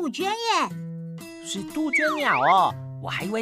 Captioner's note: cuckoo